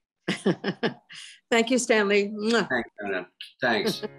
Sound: laughs; kisses

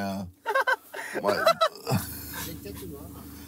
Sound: laughing

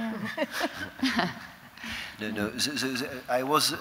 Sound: chuckling

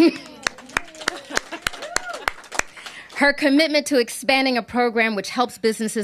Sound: applause

